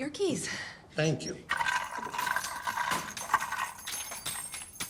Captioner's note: keys clattering